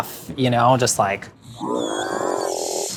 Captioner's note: monster growls